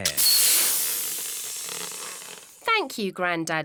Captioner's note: air hissing